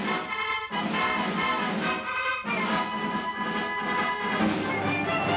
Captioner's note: none